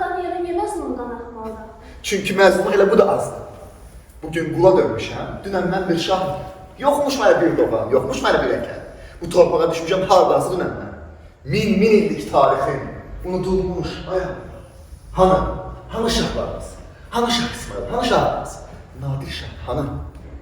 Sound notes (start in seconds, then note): 4.5 recites verse